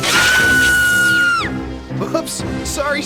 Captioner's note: screams